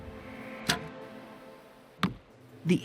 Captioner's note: arrow hits target